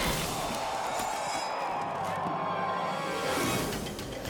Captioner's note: blow whomps; crowd cheers